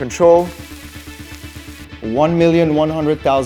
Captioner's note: pan sizzling